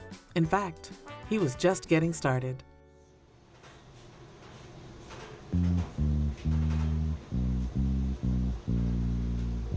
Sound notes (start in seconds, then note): 3.8 machinery clattering